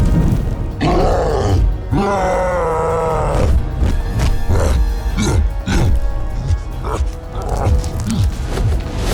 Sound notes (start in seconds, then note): 0.8 roaring